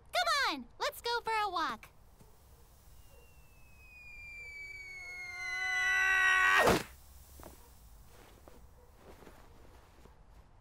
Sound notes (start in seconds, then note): 2.8 whistling 'falling' sound; 5.3 whistling 'falling' sound intensifies!; 6.6 whumph